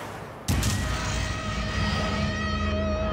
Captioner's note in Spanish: Disparo